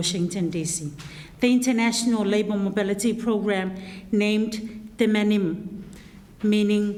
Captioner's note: in foreign language